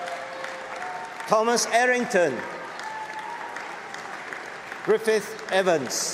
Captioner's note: applause